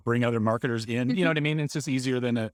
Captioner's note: laughing